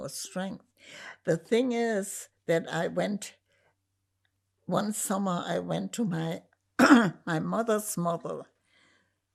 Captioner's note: clears throat